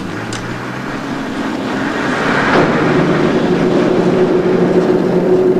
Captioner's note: sound of crane operating